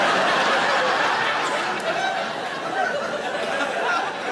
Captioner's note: audience laughing